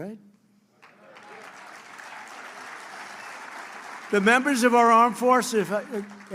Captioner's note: applause